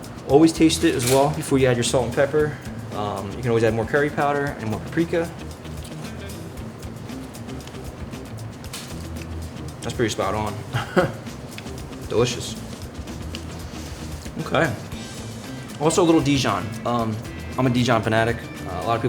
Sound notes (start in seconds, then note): 5.6 upbeat music; 10.6 chuckles